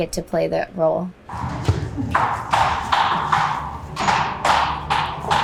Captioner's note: shoes clank